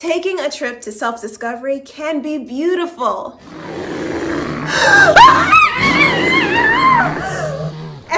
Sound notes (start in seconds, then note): 3.4 sound of bear; 6.1 yelling